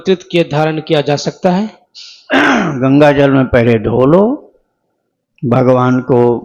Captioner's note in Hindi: गला साफ़ करने की आवाज़